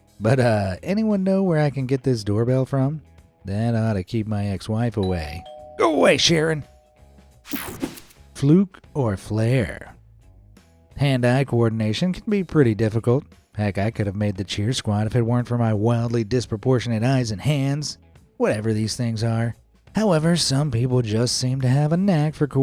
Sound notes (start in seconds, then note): 5.1 doorbell rings